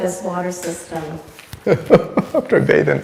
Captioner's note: laughing